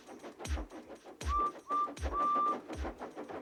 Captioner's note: tooting